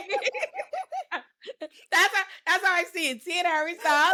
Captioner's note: laughs